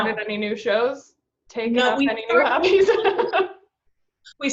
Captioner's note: laughs